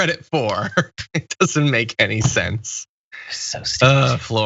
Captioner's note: laugh